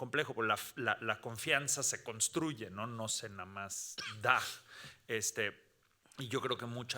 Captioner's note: speaking Spanish continues